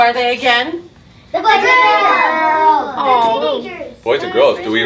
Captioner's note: students shouting out